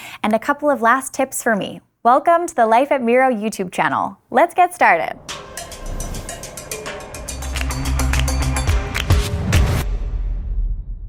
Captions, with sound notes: and a couple of last tips for me. Welcome to the Life at Miro YouTube channel. Let's get started. (upbeat music) (bell ringing)